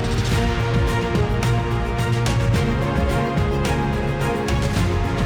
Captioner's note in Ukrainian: оплески